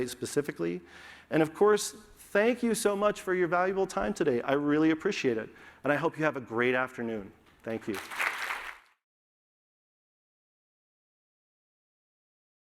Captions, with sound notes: specifically. And of course, thank you so much for your valuable time today. I really appreciate it. And I hope you have a great afternoon. Thank you. [APPLAUSE]